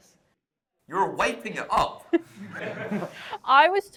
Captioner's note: laughter